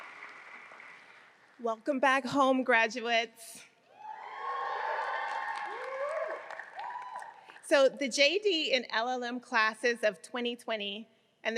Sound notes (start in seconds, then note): 4.0 audience cheering